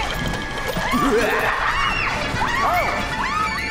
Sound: girls shrieking; clown evilly laughing; urgent music

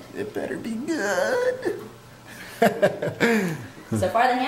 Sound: laughs

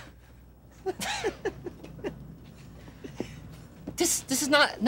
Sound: group laughing

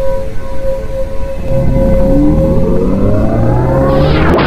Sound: space wormhole sound intensifies

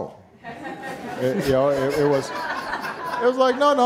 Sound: audience laughing

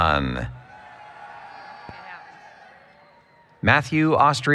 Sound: applause, Cheering

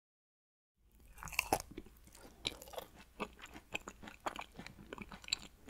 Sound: eating sound

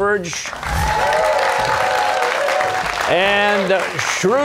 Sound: cheers and applause

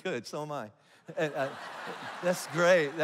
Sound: congregation laughs

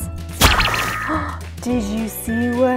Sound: gasps; popping

